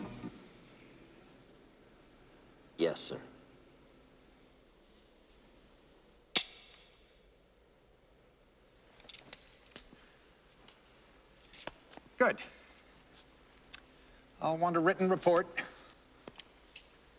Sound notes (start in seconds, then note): 0.2 music stops; 6.6 click